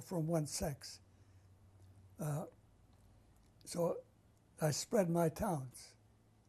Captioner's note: pauses for 3 seconds